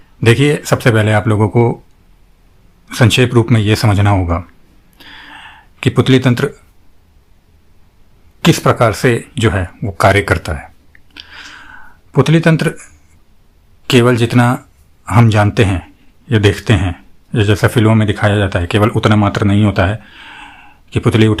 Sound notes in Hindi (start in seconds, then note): 4.9 गहरी सांस लेने की आवाज़; 5.0 अचानक ज़ोर से सांस लेने की आवाज़